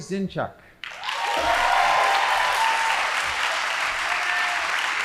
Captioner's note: audience applauding